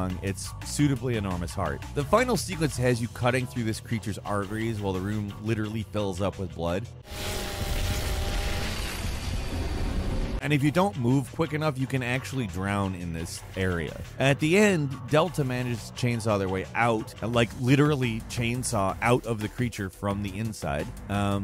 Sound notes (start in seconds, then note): 7.0 chainsaw whirring